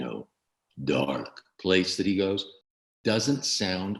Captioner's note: regular voice